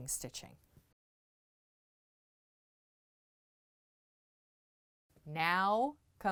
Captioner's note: no Sound Present